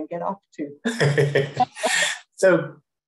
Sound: crowd laughing

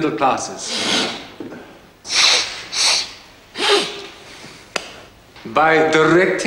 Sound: snorting and sniffing

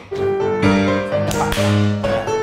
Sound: classical piano music; clapping hands; classical piano music

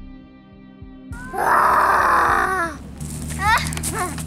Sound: growls

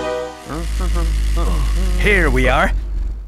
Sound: forklift hums

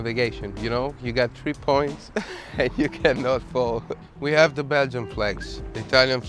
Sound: laughter

